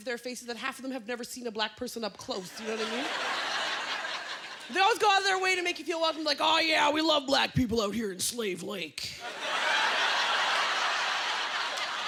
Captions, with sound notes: seen a black person up close, you know what I mean? (Laughter) They always go out of their way to make you feel welcome. Like, "Oh, yeah, we love black people out here in Slave Lake." (Laughter) They're like, "You guys are so